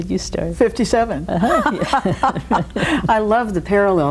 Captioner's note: both laughing